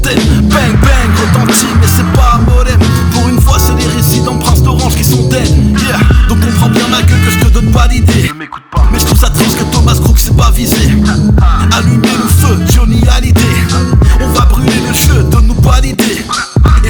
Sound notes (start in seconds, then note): 10.8 ha ha